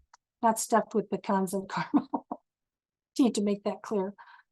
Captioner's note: chuckles